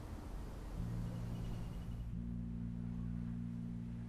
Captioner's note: bird calls continue